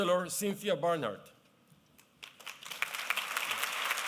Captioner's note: applause